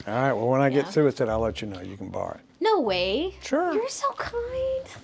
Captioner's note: none